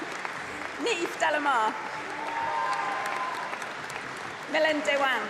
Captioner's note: applause and cheering